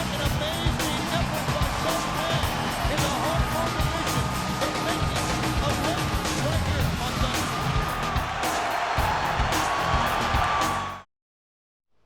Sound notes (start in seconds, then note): 4.9 crowd cheers; 4.9 upbeat music continues